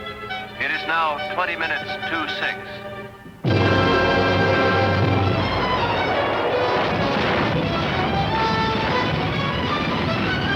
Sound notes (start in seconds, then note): 3.4 suspenseful orchestral music; 7.0 cannon blasts